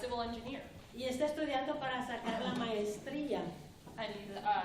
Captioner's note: speaking spanish